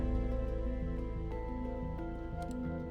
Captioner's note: clicking